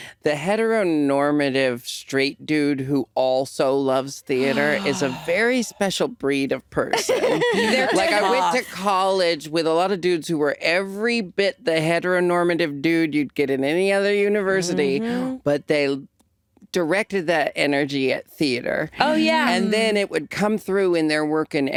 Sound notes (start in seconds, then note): 6.9 laughing